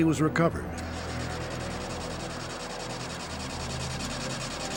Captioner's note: engine cranking